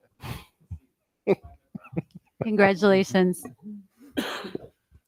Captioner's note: person laughing